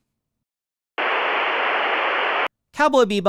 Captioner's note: static and voice change